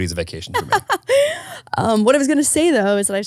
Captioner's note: laughing